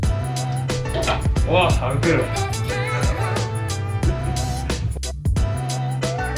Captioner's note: haha